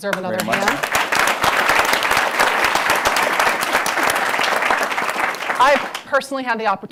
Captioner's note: applause